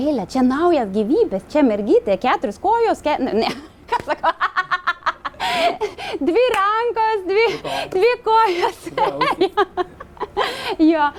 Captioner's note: giggling